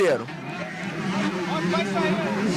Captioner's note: engines